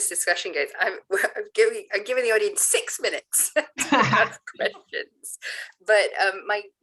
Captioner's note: laughs